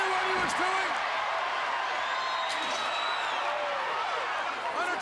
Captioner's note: crowd cheering